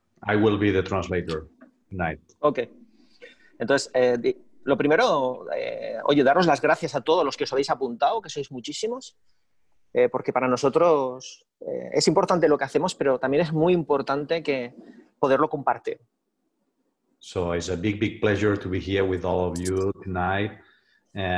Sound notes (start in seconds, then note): 3.5 speaking spanish